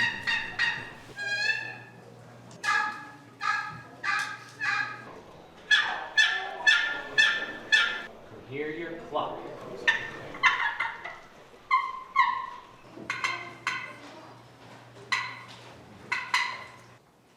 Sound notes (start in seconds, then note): 0.0 turkey call yelping; 9.5 turkey call clucking